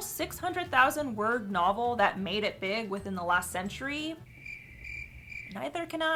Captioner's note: crickets